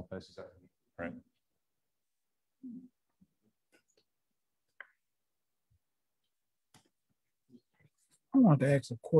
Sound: silence

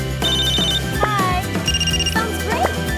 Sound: ringing

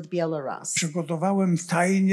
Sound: foreign language

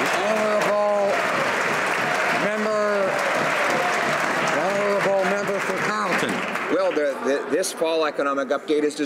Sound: some Applause

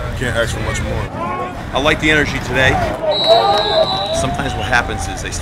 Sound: whistle and play calls

